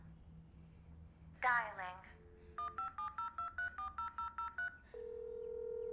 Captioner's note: phone beeping; phone line clicks; phone line ringing